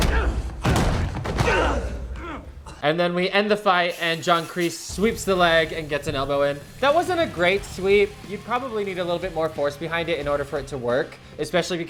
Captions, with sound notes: (body thuds) (grunts loudly) - And then we end the fight and John Kreese sweeps the leg and gets an elbow in. That wasn't a great sweep. You'd probably need a little bit more force behind it in order for it to work, especially